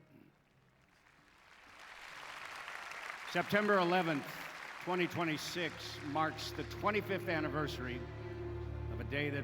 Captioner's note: applause